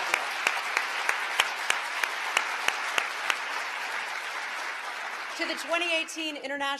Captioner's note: applause